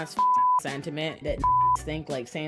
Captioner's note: beep